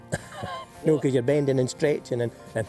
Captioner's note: chuckles